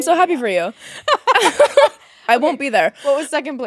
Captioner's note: both laughing